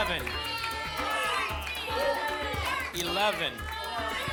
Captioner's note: audience shouting numbers